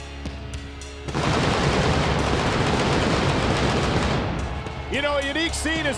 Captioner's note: fireworks blasting